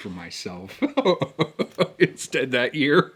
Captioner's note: laughs